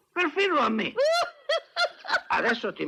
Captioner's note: laughs